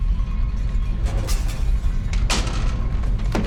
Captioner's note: glass break